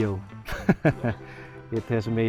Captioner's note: laughs